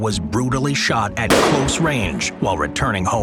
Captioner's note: gun fires